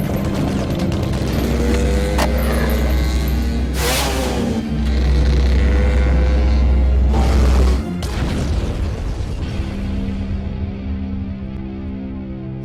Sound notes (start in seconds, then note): 0.0 bullets ricocheting; 0.0 gun firing; 0.1 skateboard rolling; 2.2 motorcycle revving; 7.8 motorcycle exploding